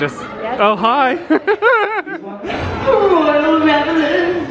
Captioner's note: laughs